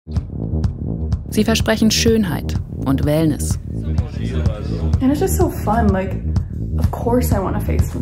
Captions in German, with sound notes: Sie versprechen Schönheit und Wellness. (Stimmengewirr) (englisch:)